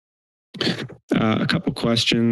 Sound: inhale

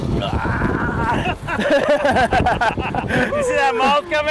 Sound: fishermen laughing

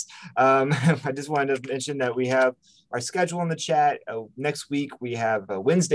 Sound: chuckles

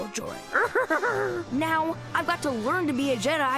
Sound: laughs

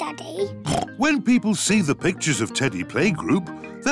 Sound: oinks

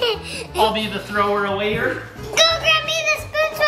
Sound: laughs

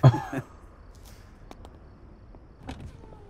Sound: laughter; chuckles; window whirs up

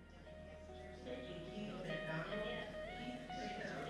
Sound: people chattering

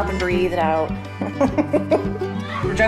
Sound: laughs

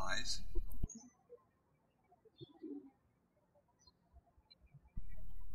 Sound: bird chirping

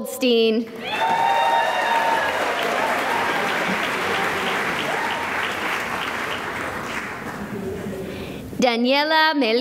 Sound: cheering and applause

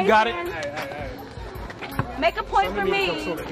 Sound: crowd

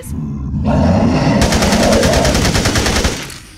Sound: automatic gunfire

